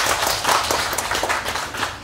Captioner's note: applause